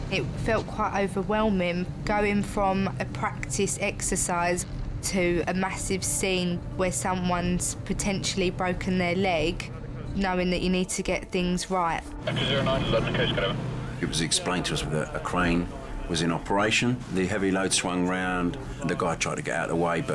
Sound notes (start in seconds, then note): 12.7 man on radio talking